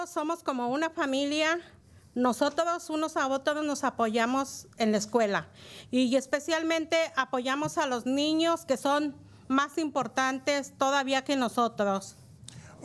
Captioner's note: speaking in spanish